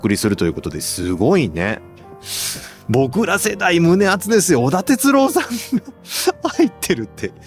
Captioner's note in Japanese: 笑い